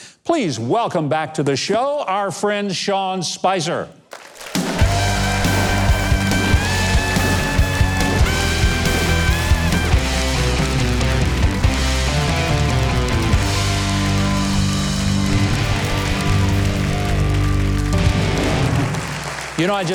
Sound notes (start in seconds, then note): 5.3 audience cheering; 8.3 upbeat music; 11.0 audience applauding; 18.2 drum roll